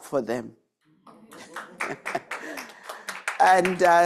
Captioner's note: attendees clapping